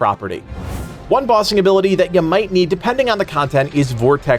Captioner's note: vortex gust